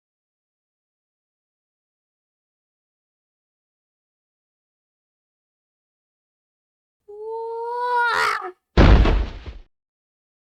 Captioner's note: squirrel screaming and crashing into the ground